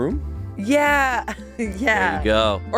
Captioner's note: laughs